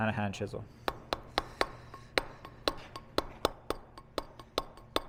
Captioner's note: metal hammering